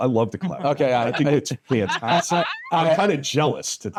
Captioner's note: laughing